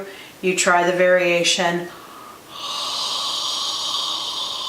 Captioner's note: exhales